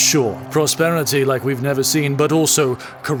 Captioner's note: sounds of wine pouring